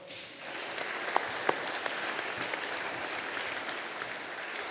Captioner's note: audience applauding